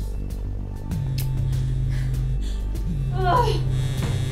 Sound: phone vibrating

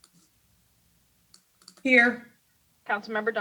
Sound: mouse clicks

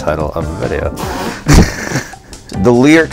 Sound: laughs

